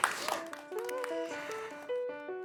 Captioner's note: aplausos, sonido de choca esos cinco